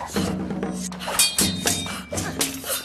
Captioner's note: metal clinks; metal clinking; grunting